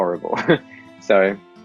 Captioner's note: laughs